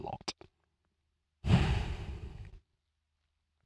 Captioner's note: sighs